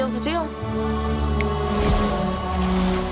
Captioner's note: snaps; whooshing